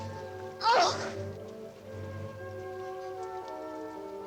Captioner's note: Klara grunting